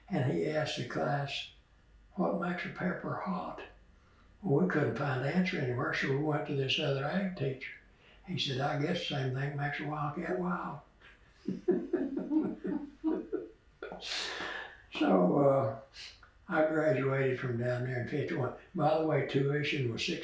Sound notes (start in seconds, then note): 14.8 laughs